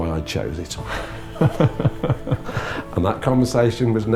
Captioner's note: laughing